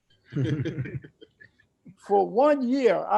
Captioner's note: laughs